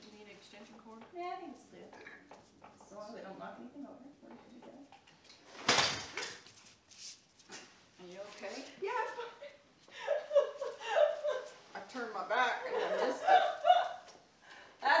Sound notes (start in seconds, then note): 5.5 light thudding; 9.9 laughing